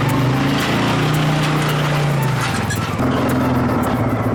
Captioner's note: engine roaring